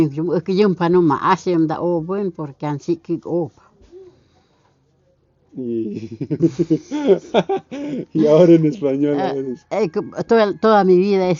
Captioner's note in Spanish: risas